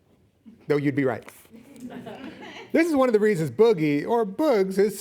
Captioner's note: audience laughing